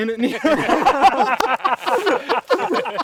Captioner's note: laughter